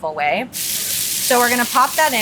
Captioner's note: oil sizzling